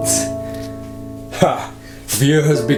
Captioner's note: laughs